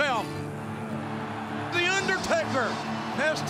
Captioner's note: crowd cheers